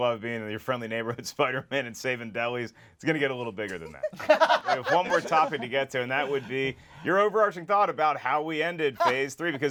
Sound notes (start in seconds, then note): 4.0 laughs; 4.0 snickers